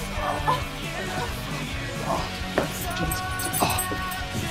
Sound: exclamations

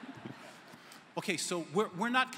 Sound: laughter

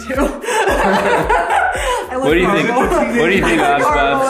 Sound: laughing

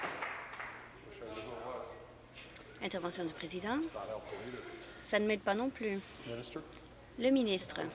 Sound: applause

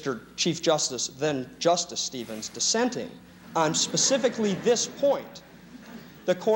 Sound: laughter

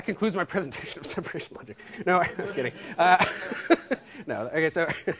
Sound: laughter

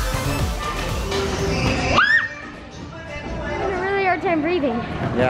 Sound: screaming

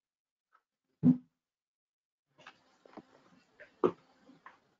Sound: object thumping

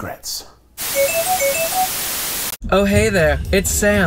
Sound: whimsical music; static crackling

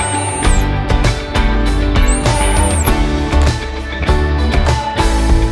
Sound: dog whistle sound

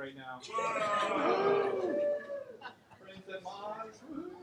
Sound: laughter, cheering

